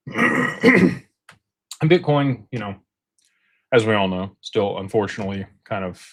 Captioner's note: clears throat and cough